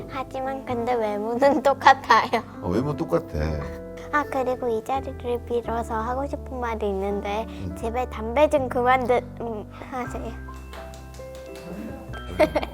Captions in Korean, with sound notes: Your looks are the same, though Yes, I look the same Oh, and by the way, Today… I’d like to say something here Please stop smoking (applause)